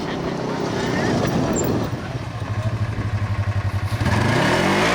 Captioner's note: engine roaring